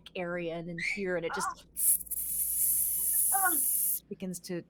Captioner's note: imitates sizzling